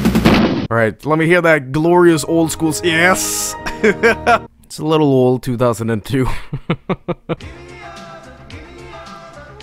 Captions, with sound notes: All right, let me hear that glorious old schools- [Windows XP startup sound] Yes! [laughs] It's a little old, 2002. [laughs]